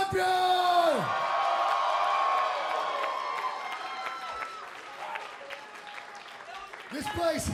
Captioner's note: crowd cheering